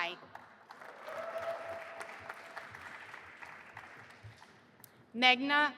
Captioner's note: audience applauding and cheering